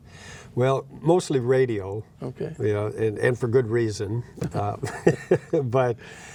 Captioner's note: laughing